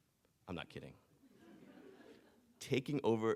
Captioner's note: audience chuckling